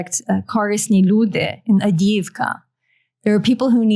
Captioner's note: non-english